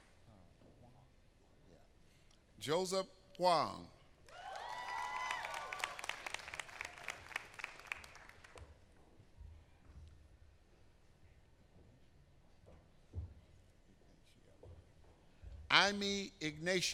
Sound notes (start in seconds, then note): 1.7 applause